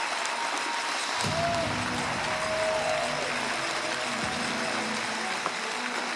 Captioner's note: cheering and Applause